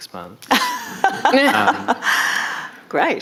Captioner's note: audience laughing